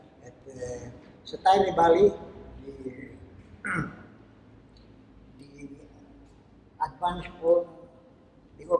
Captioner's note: foreign language